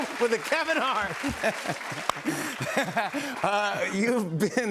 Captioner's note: laughter